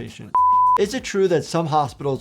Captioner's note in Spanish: pitido en pantalla